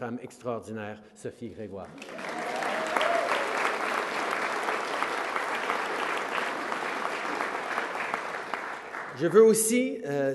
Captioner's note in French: Applaudissements